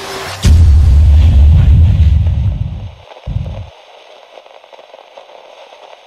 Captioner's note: static radio signalling